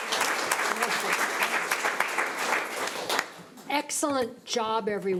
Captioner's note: audience applauds; overlapping chattering